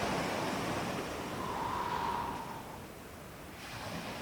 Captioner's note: breathing in and out through the nose